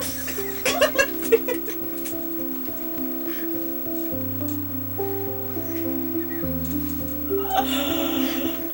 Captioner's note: laughter